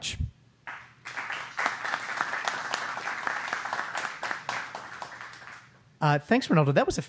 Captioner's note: applause